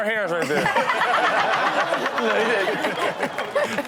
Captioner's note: all laughing